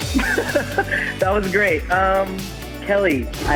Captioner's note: laughing